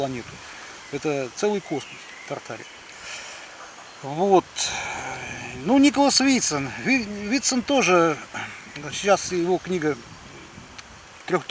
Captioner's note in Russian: откашливается